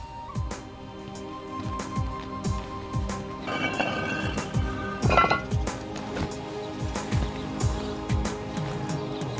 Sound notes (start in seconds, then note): 3.3 scraping sound